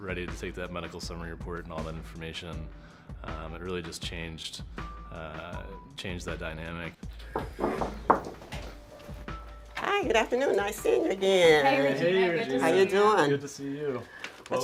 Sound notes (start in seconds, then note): 7.3 knock on door